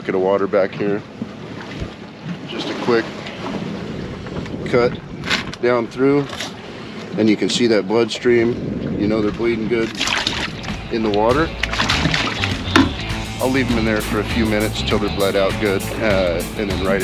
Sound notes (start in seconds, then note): 10.6 splashing